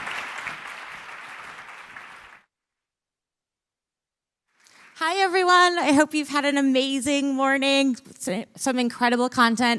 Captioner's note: cheers and applause